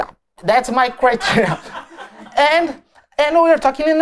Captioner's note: laughter